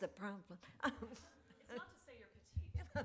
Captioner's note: laughs